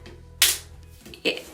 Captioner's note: snapping sound